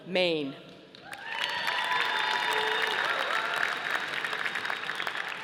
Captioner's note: audience applauding